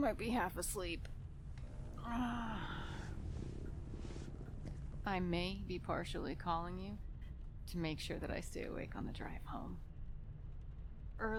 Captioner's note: rubs face with audible exhaustion